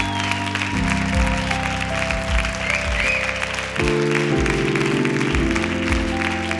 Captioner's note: applause